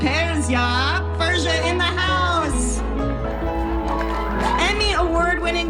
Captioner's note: audience cheers and applauds